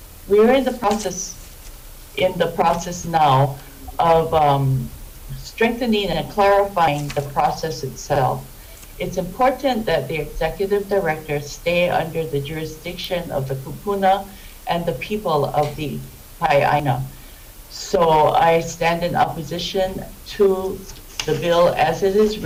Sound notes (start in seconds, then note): 16.5 speaks Hawaiian